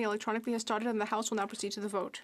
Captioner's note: speaking French